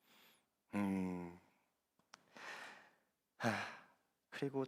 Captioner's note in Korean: 한숨